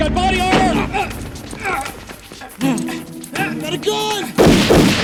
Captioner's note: door thuds; officer grunts; gun firing